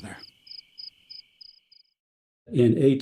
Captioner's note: crickets chirping